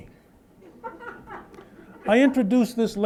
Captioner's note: laughter